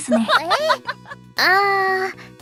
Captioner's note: laugh a lot